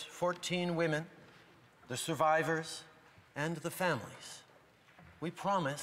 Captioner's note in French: voix de l'interprète